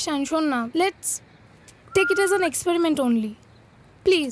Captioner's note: whistles